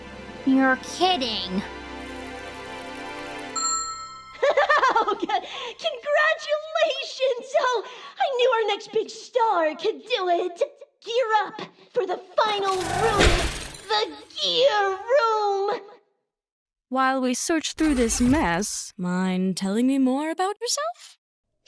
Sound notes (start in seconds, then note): 3.6 ding!; 4.4 spring laughs